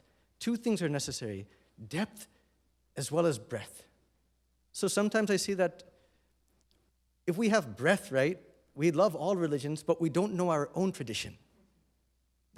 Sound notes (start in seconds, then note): none